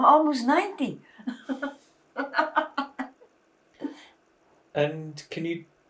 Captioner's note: laughing